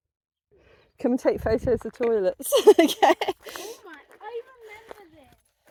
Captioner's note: laughing